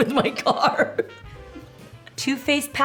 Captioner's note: laughs